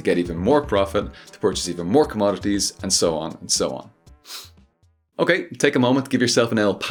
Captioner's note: sniff